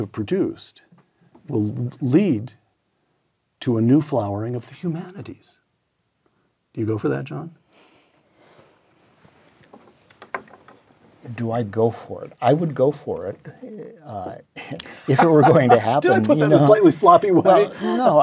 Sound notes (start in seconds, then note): 14.7 laugh